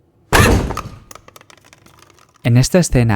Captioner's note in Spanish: golpe